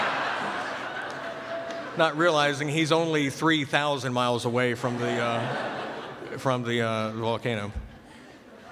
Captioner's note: laughter